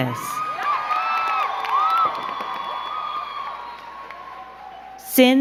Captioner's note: crowd cheering and clapping